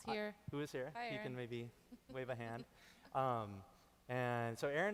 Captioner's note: chuckling